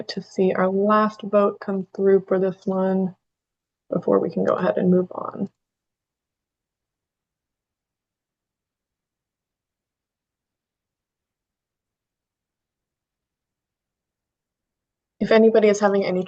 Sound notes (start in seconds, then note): 8.7 pause